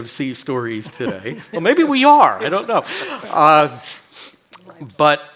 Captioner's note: chuckles